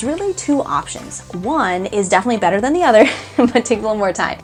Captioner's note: laughing